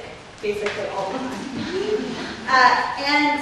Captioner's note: scattered laughter